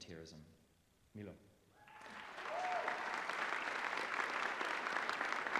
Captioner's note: cheering